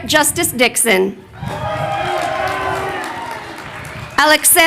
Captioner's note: crowd cheering